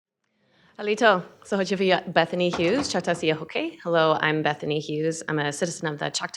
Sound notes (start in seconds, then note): 1.8 speaking Chochtaw